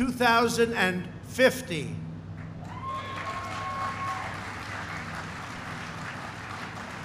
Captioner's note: applause